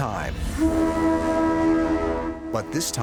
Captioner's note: horns blowing